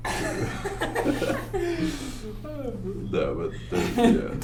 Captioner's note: laughs